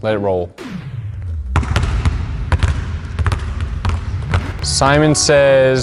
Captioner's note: basketballs falling